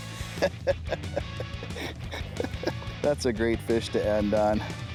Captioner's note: he laughs